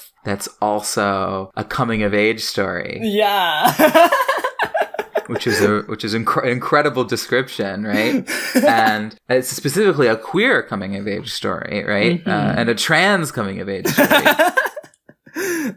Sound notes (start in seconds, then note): 3.1 laughs; 8.0 laughs; 13.8 laughs